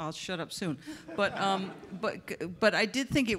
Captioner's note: audience members laugh